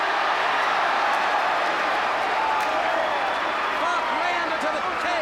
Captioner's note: crowd cheers